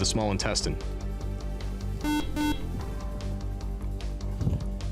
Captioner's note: beeping